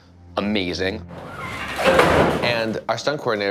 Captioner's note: officer thuds